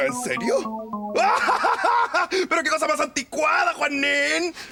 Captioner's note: laughs